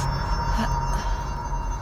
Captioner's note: groaning